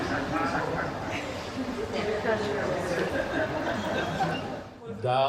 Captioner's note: audience laughing